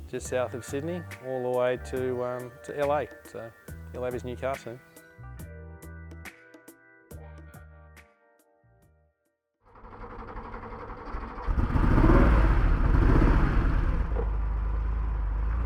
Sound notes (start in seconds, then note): 9.7 engine idling; 11.9 engine revving up